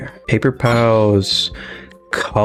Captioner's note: inhales Oxygen